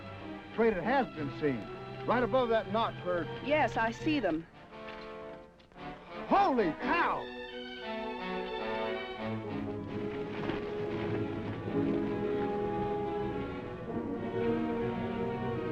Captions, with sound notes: - Afraid it has been seen. Right above that knot there. - Yes, I see them. (dramatic music) - Holy cow. (dramatic music) (horse hooves clopping) (dramatic music)